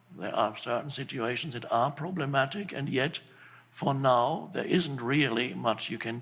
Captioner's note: none